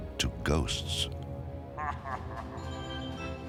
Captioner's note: laughs; playful music